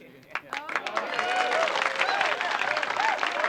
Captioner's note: cheering, applauding